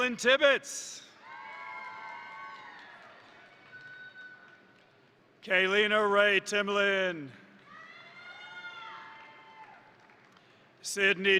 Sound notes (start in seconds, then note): 1.2 crowd cheering; 1.3 crowd applauding; 7.6 crowd cheering; 8.2 crowd applauding